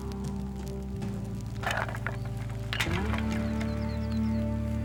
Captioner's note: wood clatters